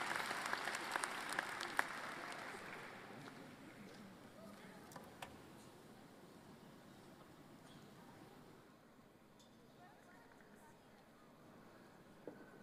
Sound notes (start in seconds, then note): 0.0 applause